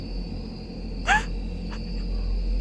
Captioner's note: crying